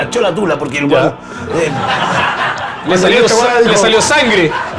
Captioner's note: laughs